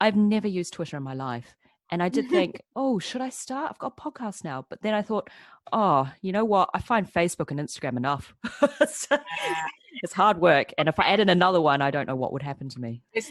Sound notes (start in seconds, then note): 9.0 laughs